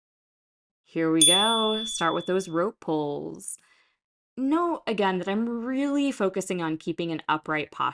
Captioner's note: chime